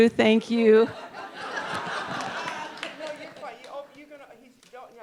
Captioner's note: audience laughing